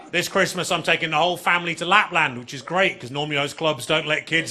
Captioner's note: audience laughing